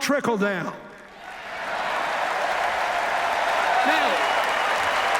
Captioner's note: cheers, applause